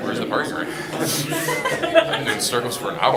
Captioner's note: laughter